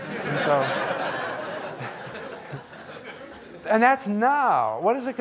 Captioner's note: audience laughing